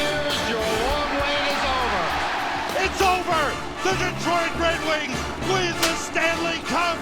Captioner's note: crowd cheers